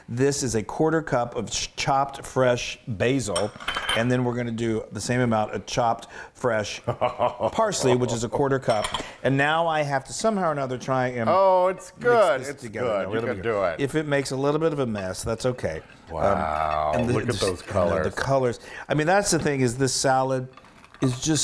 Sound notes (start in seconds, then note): 6.9 laugh